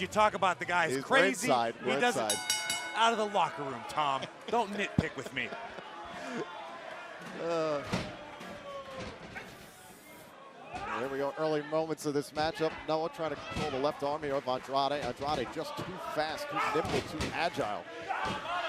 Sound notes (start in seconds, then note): 4.3 bell ringing; 7.3 laughter